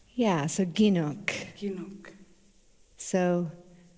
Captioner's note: In Mi’kmaq